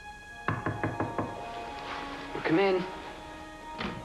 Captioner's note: knocking at door